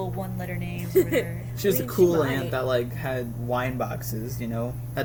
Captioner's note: laughs